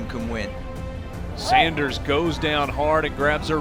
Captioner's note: voiceover